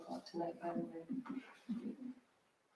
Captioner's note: audience Giggling